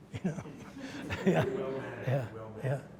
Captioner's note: audience laughs